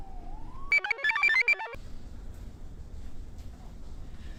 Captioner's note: computer chirps